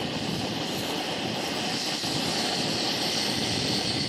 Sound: hissing intensifies

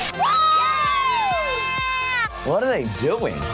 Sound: screaming

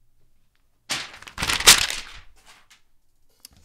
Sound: paper ripping and throwing

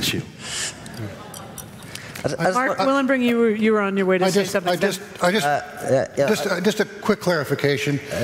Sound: light laughter

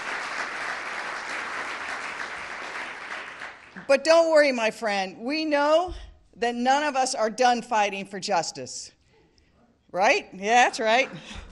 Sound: applause

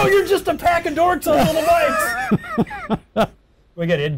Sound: laughing

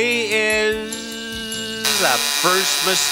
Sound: buzzer

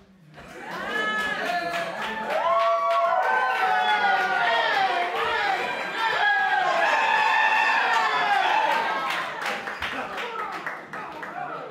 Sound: applause

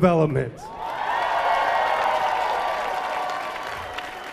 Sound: crowd cheering

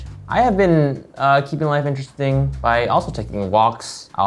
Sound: none

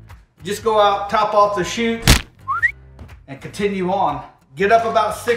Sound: whistles

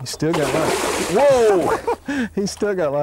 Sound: chuckles

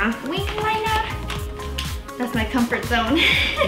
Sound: giggles

